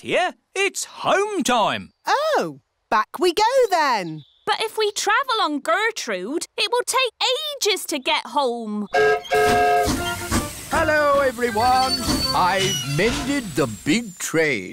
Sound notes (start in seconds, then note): 8.9 whistle blows